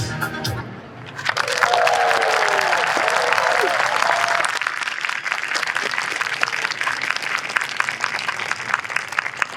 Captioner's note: applause